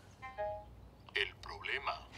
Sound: phone bleeps

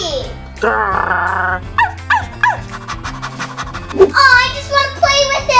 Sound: growling, barking, and panting

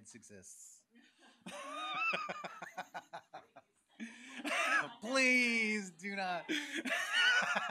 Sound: laughs

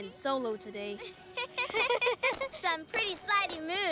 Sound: laughter

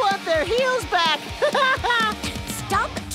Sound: laughing

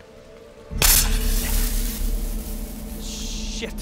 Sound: snake hisses

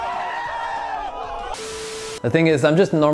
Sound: static buzzing

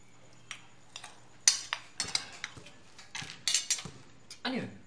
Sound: ball bouncing

